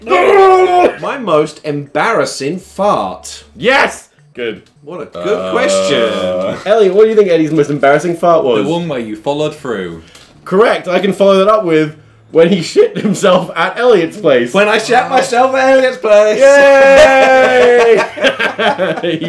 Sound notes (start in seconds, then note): 16.3 everyone cheering; 16.9 everyone laughing